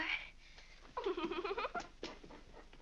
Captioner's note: Mary giggles